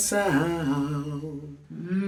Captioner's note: humming